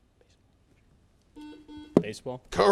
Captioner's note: buzzer